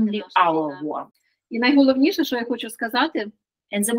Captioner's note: Ukrainian